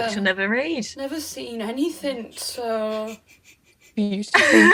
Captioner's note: Sketch audio plays